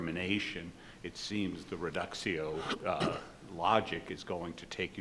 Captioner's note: speaking in foreign language